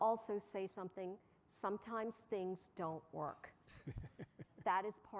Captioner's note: laughter